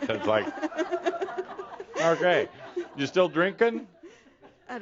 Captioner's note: more laughter